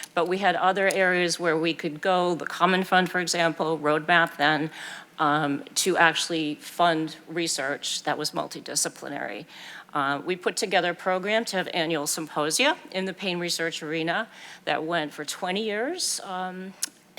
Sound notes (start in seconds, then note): none